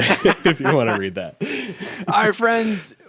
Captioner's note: both laughing